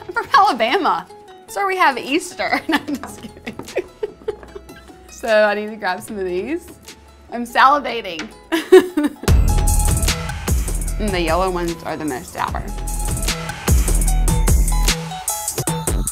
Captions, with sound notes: I'm from Alabama. That's where we have Easter. (laughs) No, I'm just kidding. So I need to grab some of these. I'm salivating. (intense synthesized music) The yellow ones are the most sour. (intense synthesized music)